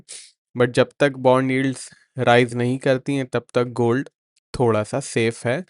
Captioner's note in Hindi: नाक से की जाने वाली आवाज़